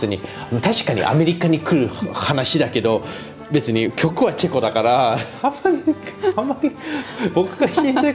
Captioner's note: laughs